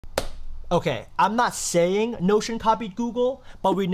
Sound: claps

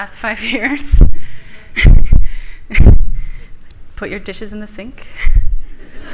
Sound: laughs; audience laughs

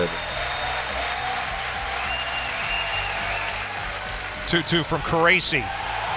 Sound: crowd cheering and clapping

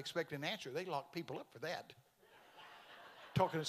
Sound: congregation laughing

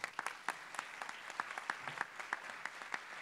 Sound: applause

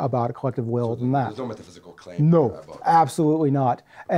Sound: voiceover

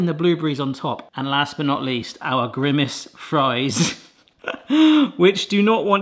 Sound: laughs

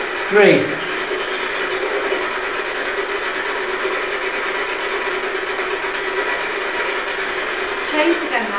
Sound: white noise

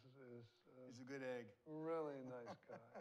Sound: laughs

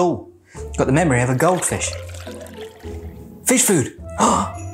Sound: water trickling; gasps

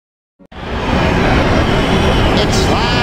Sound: Podracer engines humming

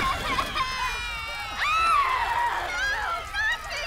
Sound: shrieks; child wailing

